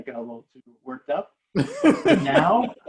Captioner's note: laughing